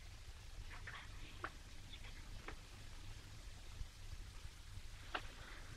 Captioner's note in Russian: она говорит шепотом